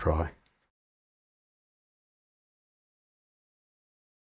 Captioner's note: silence